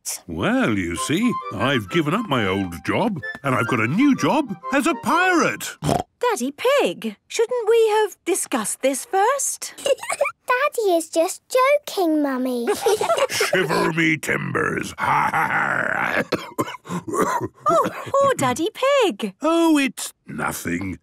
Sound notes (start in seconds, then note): 9.8 laugh; 12.7 menacing voice; 14.8 growls; 16.1 cough